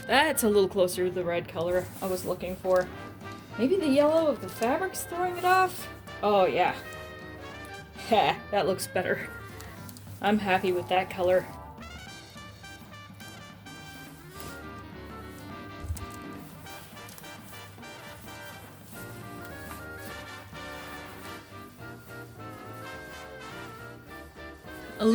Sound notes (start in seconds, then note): 13.1 more crumple paint splot noises; 20.0 jazzy music